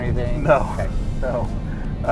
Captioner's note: laughing